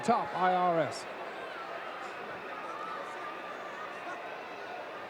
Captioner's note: audience cheering